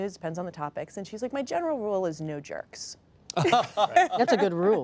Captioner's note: laughter